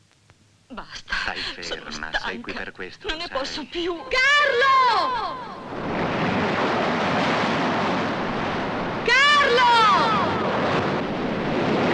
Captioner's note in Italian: urlo